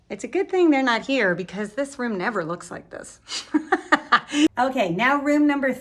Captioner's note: laughs